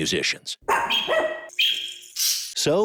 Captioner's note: dog barking